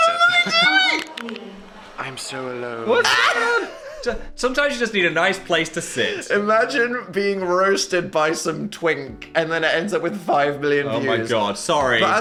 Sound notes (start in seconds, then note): 3.0 Dan laughs